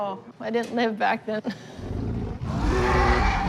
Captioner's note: laughs